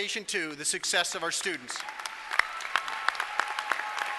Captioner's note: applause